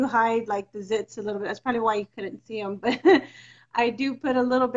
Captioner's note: laughs